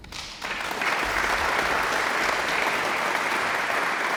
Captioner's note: audience applauds